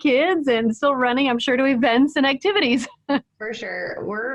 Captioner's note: laughs